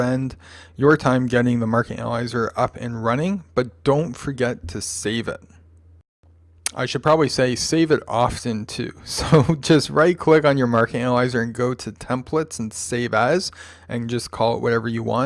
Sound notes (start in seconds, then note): 9.0 chuckle